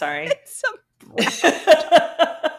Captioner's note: laughing